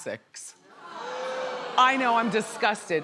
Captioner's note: crowd boos